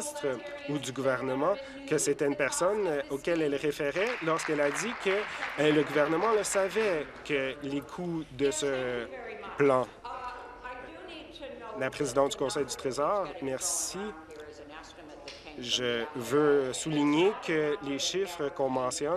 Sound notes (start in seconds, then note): 7.5 applause